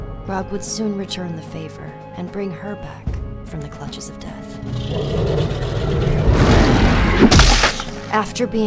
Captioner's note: roar, crunch